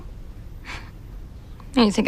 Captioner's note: scoffs